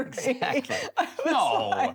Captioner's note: laughs